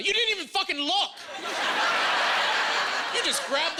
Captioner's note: laughing